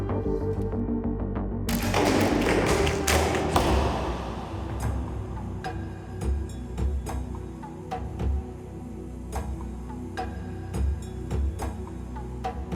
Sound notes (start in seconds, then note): 1.7 arrows being fired and striking target